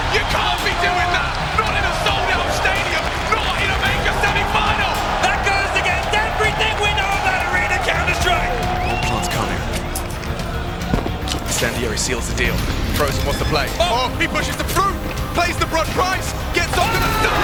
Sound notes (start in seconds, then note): 8.9 crowd whistling; 9.8 feet thudding